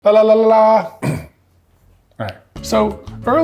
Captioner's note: clears throat